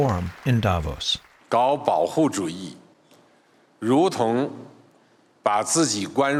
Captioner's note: speaking Mandarin